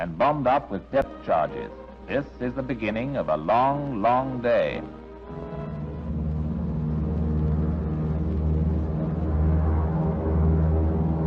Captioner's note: aircraft engine noise